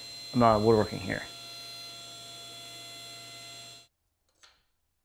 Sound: saw whirring; wood clacking

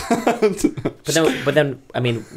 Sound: laughter

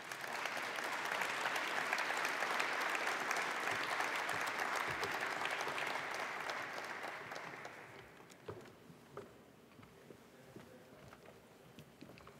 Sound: applause

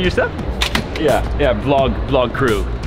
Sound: luggage clicks

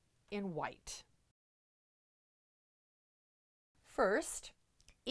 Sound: no Sound Present

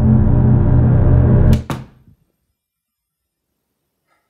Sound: door shuts

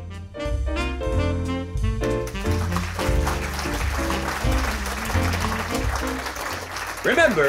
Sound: applause

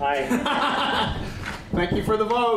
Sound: laughter

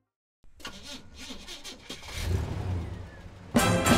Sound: car struggles to start

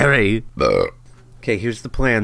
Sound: burp

